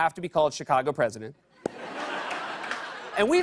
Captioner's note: laughter